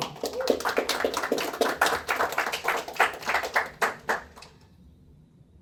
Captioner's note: applause